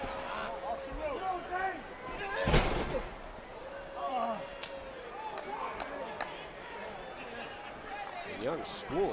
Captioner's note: crowd chatter